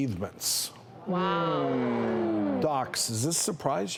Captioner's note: audience oohing